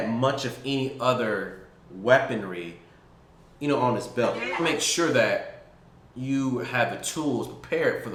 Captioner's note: video playing. Commotion